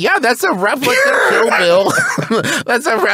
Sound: laughs

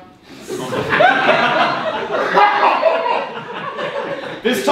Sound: audience laughing

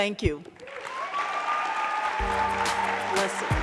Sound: audience clapping; audience cheering

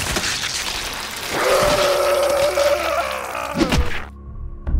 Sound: screaming in agony

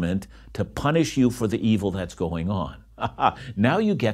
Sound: laughs

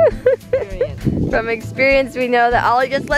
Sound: laughing

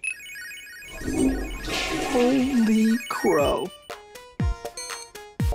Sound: flush

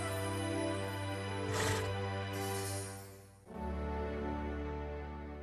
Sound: horse huffing

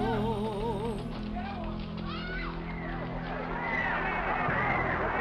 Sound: people screaming

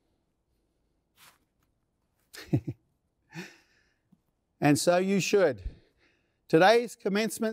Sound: laughter

